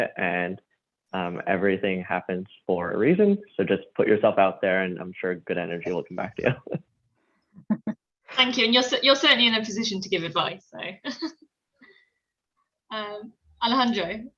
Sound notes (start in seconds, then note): 5.6 laughs